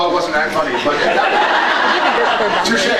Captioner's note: laughs